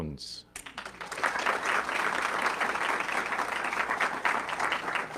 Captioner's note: audience clapping